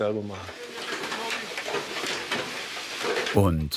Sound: work noises

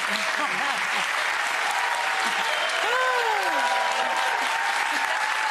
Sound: audience clapping and cheering

